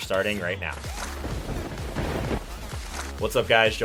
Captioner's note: thunder crackles